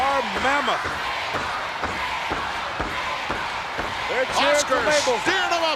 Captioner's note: applause